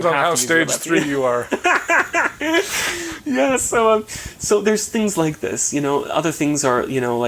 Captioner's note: chuckling